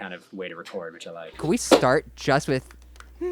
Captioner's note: humming